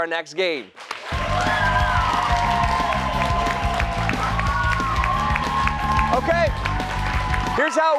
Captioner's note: cheers and applause